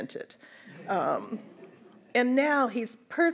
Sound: audience laughs

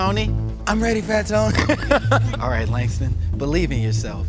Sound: laugh

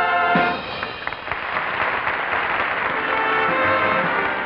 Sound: audience applauding; orchestral music

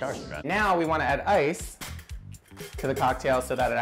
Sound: air whooshes

